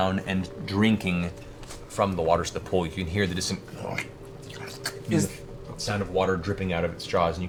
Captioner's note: lapping